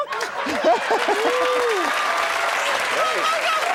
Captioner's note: cheering